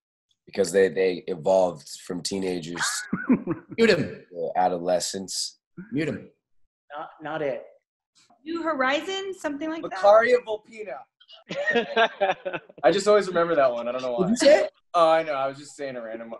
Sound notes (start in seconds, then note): 11.3 laughing